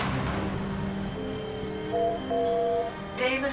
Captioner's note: phone beeping